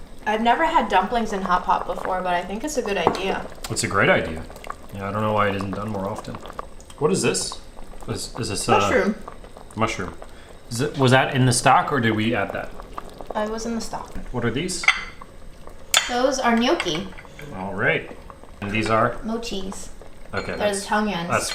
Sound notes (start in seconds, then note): 14.7 plate clinking